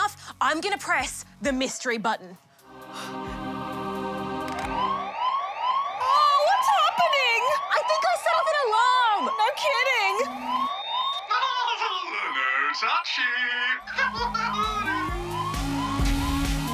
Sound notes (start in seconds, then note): 4.8 siren whoops; 14.0 laughs